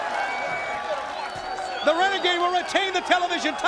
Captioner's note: crowd cheering